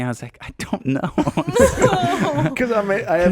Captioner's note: laughing